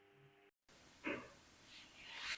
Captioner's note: knock